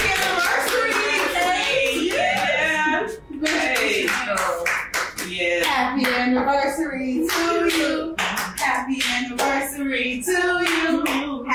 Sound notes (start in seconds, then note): 2.8 cheering and clapping; 5.4 everyone chatting